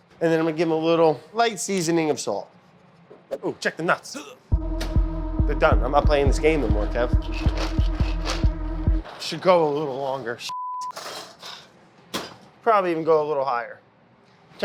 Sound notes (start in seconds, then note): 11.9 oven door slams